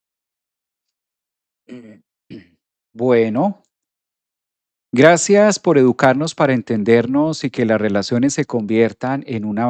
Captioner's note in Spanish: carraspeo